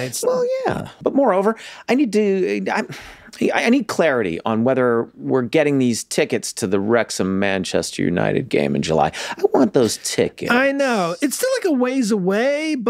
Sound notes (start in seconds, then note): none